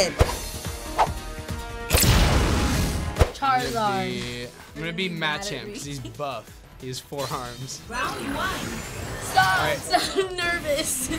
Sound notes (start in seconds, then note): 0.1 adventure music; 1.9 flames burst